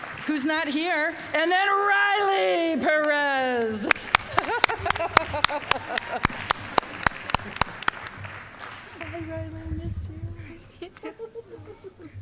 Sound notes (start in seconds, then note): 3.2 applause; 3.8 laughing; 6.8 applause